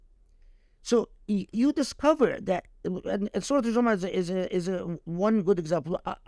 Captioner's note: speaking Arabic